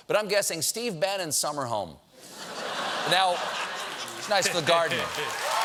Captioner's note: cheering; laughter